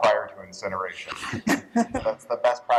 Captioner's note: laughter